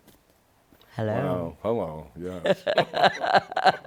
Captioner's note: laughter